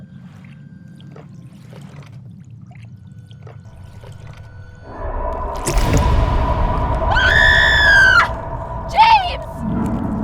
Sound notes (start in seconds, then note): 0.8 ominous music continues; 5.6 trap thuds; 7.0 Shelby screams